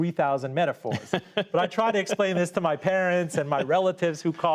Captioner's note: laughter